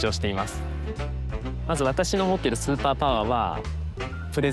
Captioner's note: speaking japanese